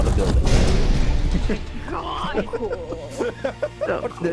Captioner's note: laughing